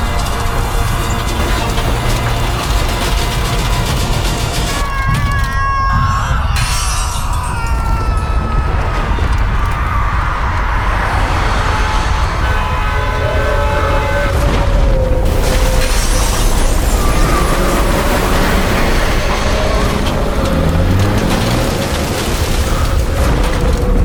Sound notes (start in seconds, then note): 0.2 total destruction roaring; 5.0 cataclysmic destruction amid crying; 20.0 total destruction roaring